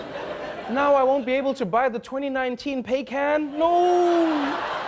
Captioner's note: laughter